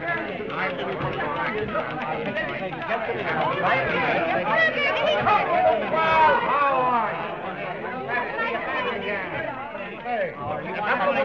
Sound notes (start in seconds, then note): 0.5 crowd shouting; 5.6 crowd cheering